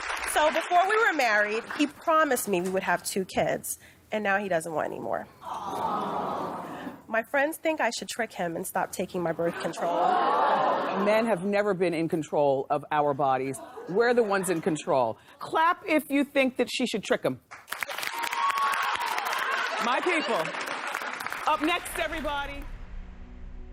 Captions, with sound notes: SO BEFORE WE WERE MARRIED, HE PROMISED ME WE WOULD HAVE TWO KIDS, AND NOW HE DOESN'T WANT ANYMORE. [CROWD] AWW. MY FRIENDS THINK I SHOULD TRICK HIM AND STOP TAKING MY BIRTH CONTROL. MEN HAVE NEVER BEEN IN CONTROL OF OUR BODIES, WE'RE THE ONES IN CONTROL. CLAP IF YOU THINK THAT SHE SHOULD TRICK HIM. MY PEOPLE. UP NEXT, EVERYBODY...